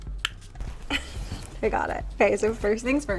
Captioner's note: laughs